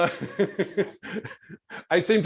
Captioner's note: laughs